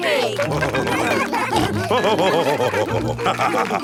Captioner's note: all cheering; laughing